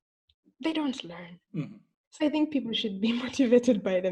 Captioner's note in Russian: хм